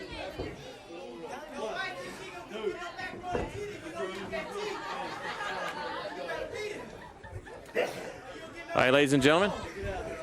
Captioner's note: crowd chatter